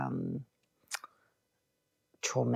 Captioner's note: clicks tongue